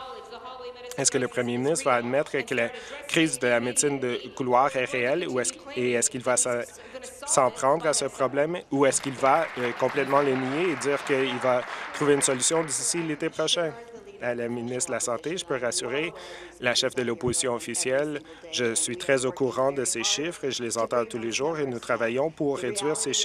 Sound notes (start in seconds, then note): 11.8 applause